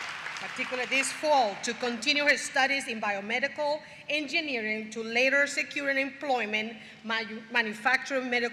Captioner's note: applause